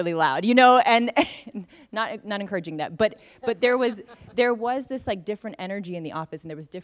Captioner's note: laughs